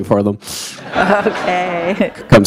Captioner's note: laughter